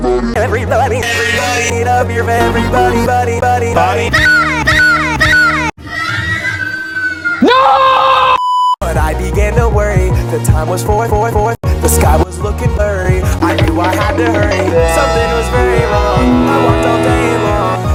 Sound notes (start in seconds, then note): 4.2 voice crack